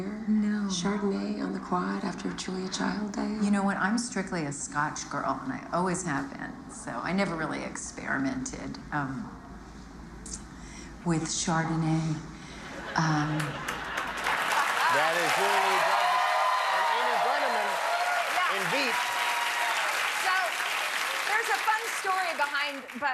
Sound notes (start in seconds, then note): 13.4 cheers and applause